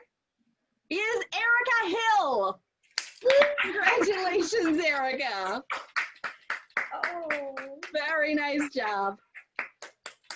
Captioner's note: applause